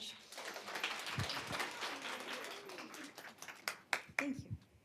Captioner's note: applause